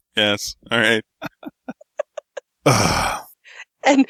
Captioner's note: laughter; grunt